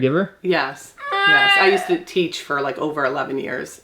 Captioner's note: vocalizing